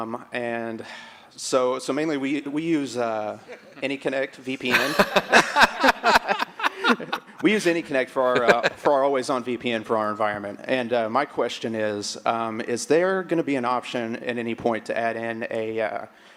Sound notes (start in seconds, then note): 7.4 laughter